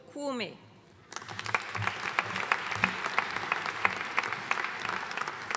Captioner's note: audience applauding